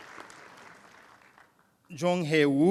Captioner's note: applause